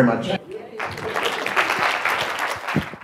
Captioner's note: applause